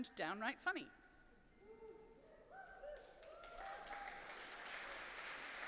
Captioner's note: applause